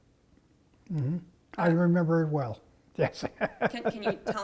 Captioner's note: laugh